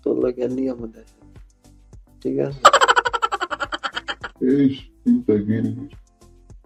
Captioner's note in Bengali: সশব্দ হাসি